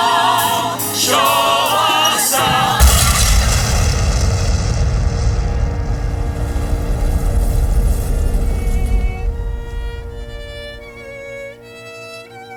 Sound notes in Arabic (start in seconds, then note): 2.1 خارج المسرح، انفجار; 7.6 موسيقى كئيبة